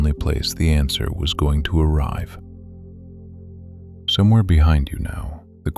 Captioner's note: soft voice